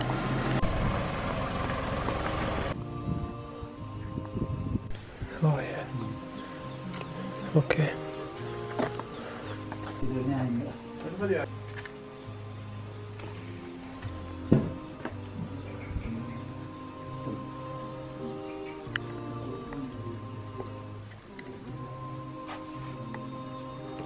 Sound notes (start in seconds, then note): 0.0 engine sound; 9.7 speaking Indonesian